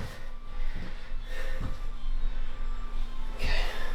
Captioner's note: breathing Heavily